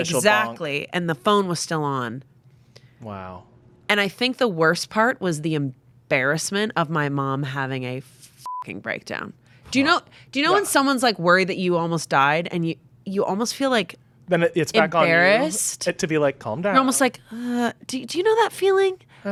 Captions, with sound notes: did an initial bonk. - Exactly, and the phone was still on. - Wow. - And I think the worst part was the embarrassment of my mom having a (beep) breakdown. Do you know when someone's like worried that you almost died, and you almost feel like- - Then it's back on you. - Embarrassed? - To be like, "Calm down." - You're almost like, do you know that feeling?